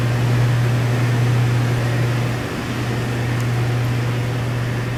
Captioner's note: electric noise gets quieter